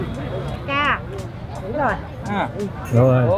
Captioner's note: speaking Vietnamese